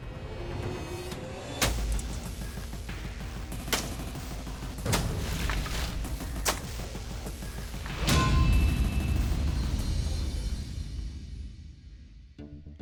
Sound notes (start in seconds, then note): 0.3 slashing; 8.0 clang